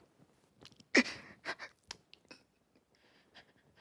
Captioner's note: Ford gasping